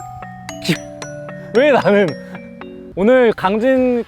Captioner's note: holding back tears